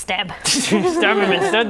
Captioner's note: laughing